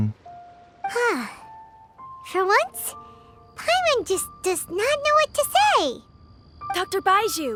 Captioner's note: sigh